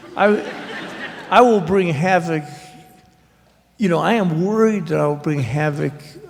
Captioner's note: laughter